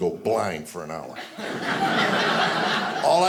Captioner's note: audience laughing